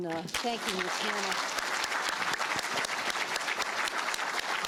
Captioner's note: applause